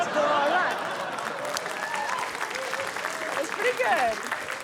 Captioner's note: cheering, applause